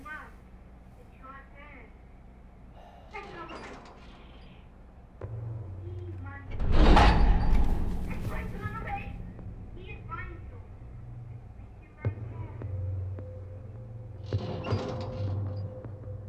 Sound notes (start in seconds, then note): 5.2 foreboding music; 6.5 metal scraping